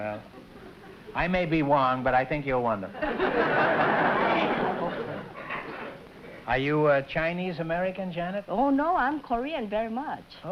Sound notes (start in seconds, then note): 2.9 laughter